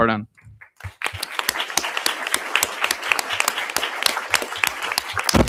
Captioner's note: audience applauding